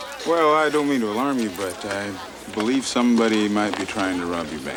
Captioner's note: none